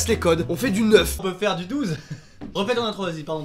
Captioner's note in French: rire leger